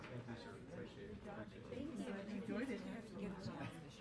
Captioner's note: low chatter